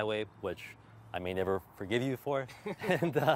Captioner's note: laughter